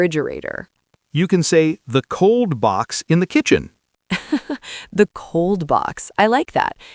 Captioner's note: laughs